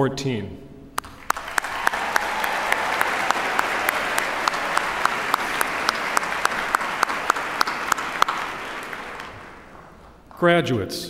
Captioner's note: applause